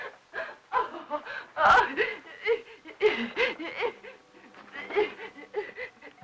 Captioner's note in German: Lachen